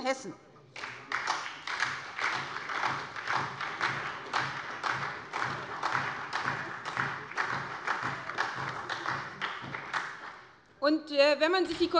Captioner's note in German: Beifall bei der SPD